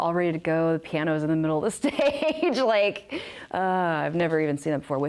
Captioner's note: risos de desespero